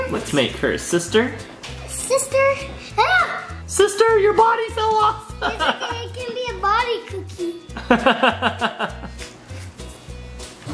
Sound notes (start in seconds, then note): 5.4 laughing; 7.7 dad laughing